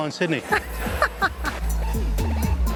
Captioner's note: laughing